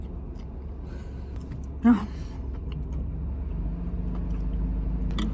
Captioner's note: sighs